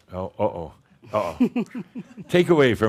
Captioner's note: continues mimicking the theme from Jaws movie; giggles